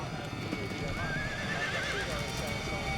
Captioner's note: horse neighs; horseshoes clattering; ominous music rising